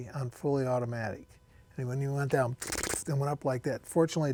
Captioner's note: imitates gunfire